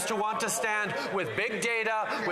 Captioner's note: some Applause